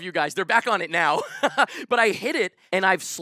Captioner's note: laughs